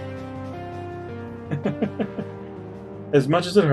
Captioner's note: chuckles